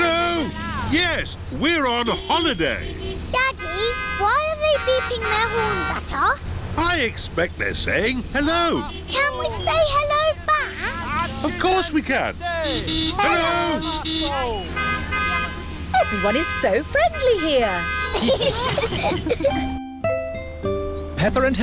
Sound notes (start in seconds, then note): 0.3 horns honking; 13.2 honking; 15.3 italians honk back; 17.8 all giggling